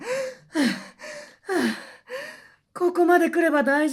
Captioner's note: panting